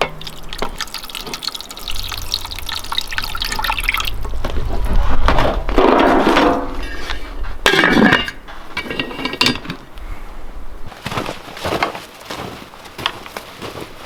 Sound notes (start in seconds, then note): 0.0 water splashing; 7.4 metal rattling; 10.8 snow crunching